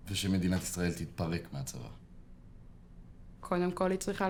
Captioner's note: speaking foreign language